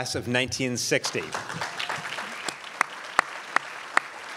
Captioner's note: crowd applauds